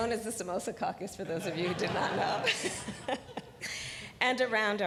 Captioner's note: laughter